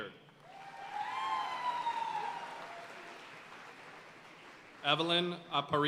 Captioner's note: audience cheering and applauding